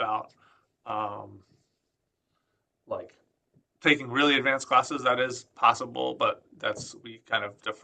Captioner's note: none